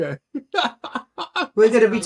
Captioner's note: laughing